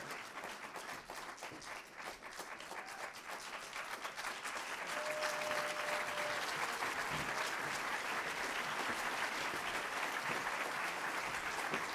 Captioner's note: applause